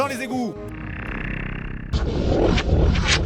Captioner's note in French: Bruits sataniques